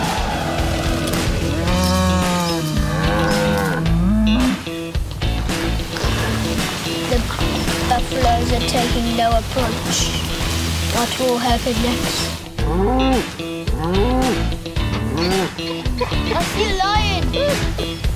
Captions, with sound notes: (cows moo) Look, the buffaloes are taking their approach. What will happen next? (cows moo) I see a lion, oo!